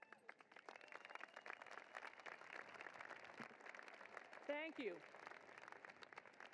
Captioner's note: applause